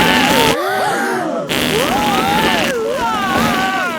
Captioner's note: both screaming; crowd gasps; screaming